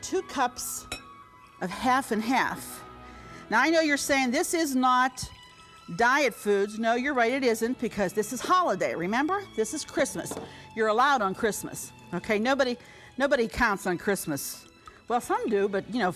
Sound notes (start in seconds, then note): none